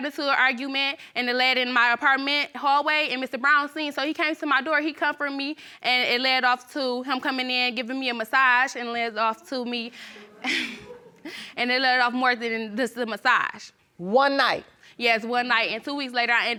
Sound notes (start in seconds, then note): 10.0 chuckles